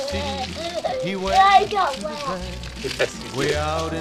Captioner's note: laughs